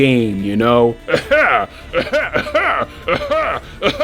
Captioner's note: several cough Pokemon